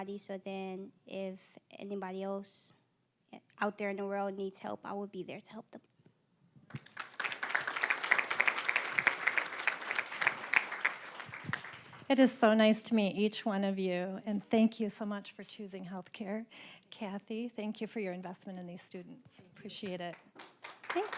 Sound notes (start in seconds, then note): 6.7 applause